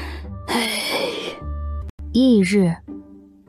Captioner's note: sigh